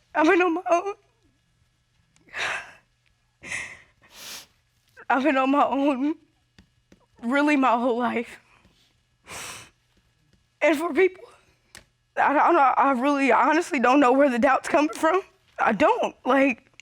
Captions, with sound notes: I've been on my own. [sobs] I've been on my own... really, my whole life. [sniffles] And for people... that-- I don't know, I really honestly don't know where the doubts come from, I don't, like...